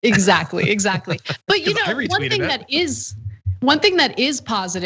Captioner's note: laugh